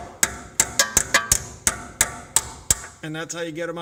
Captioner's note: hammer banging on metal